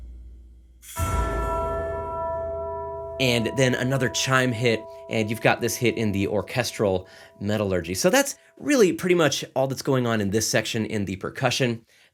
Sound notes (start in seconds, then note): 0.9 bell tolls